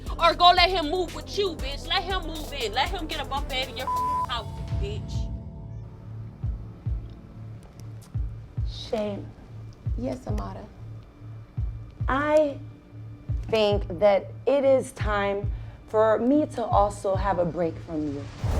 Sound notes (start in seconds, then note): 3.8 beep; 6.4 heart beating